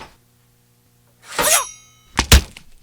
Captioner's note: page ripping; blade swishes; board thuds